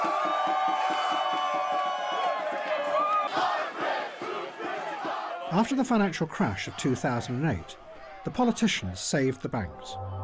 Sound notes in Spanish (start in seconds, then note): 2.1 cánticos